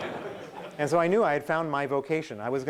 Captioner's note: laughing